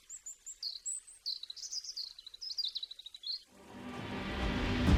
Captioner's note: śpiew ptaków, szum wiatru